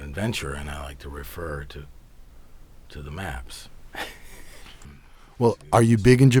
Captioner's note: laughs